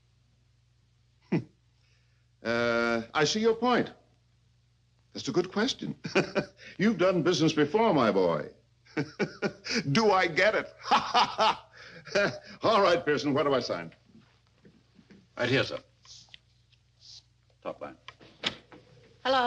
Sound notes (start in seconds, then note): 1.3 chuckles; 6.0 laughs; 8.9 laughs